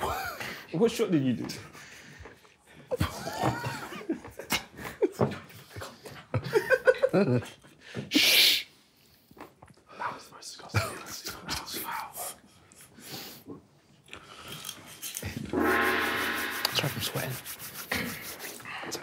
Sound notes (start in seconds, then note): 2.8 group quietly laughing; 15.5 gong banging